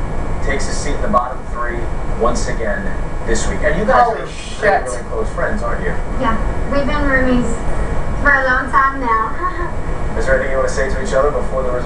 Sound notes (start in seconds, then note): 6.7 on TV